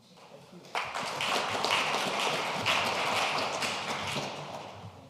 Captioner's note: audience applauding